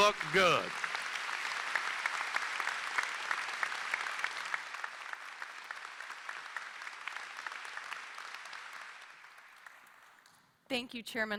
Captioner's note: applause